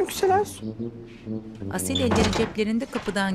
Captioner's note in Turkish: Kapı kapanma sesi